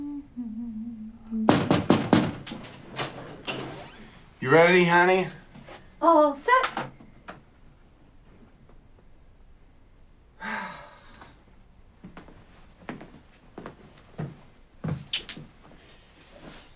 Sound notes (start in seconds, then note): 1.5 knocking; 10.4 sighs